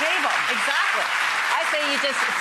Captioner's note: applauding